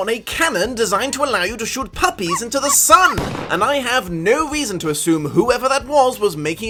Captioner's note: canon fire